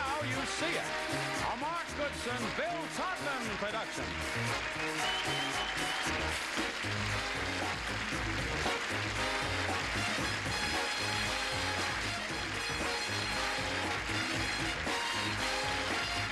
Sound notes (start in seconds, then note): 3.0 applause; 3.0 theme music playing